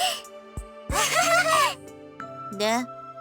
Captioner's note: awkward laugh